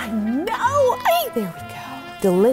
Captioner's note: squeals